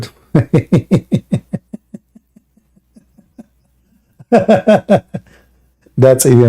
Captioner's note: Ketawa